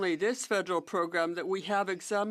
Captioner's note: speaking French